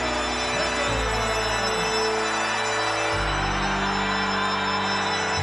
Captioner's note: audience cheers; ominous music continues